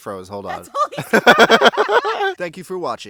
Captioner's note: laughs